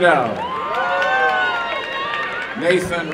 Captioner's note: applause and cheering